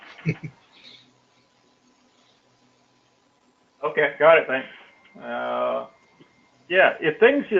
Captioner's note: laugh